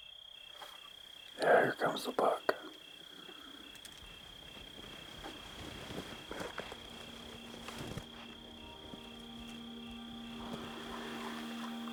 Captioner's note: offscreen, whispering